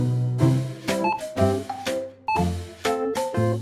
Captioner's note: beeping